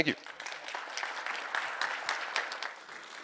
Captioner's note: applause